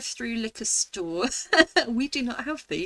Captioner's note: laughing